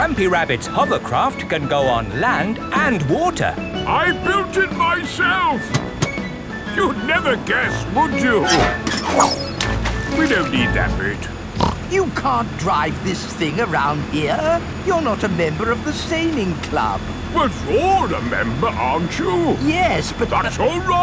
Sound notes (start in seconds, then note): 9.3 splashes; 11.5 snorts